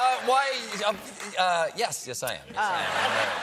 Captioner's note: laughter